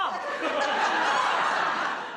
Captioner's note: laughs